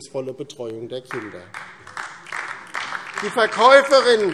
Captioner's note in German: Beifall DIE LINKE